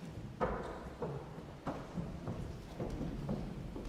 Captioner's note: footsteps clomping